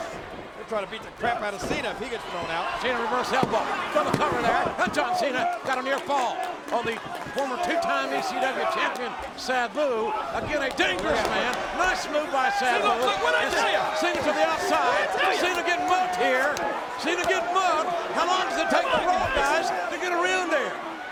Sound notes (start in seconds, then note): 5.1 spectators applauding